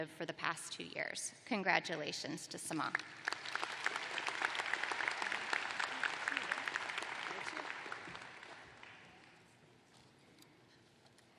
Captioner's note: applause